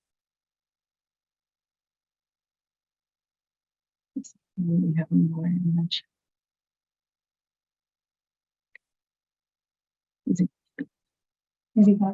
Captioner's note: silence